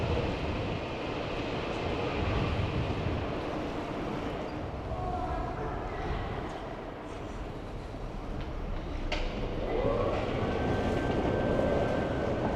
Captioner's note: wind Blowing